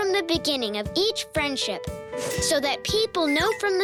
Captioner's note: bell ringing